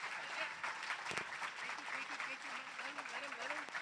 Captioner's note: non-english speech